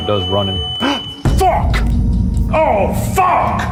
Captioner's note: alarm beeping; gasps